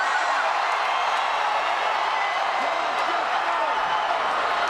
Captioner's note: crowd roars